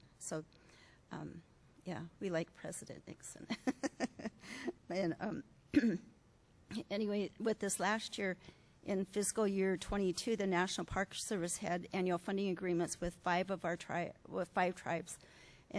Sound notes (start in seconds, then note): 3.6 laughs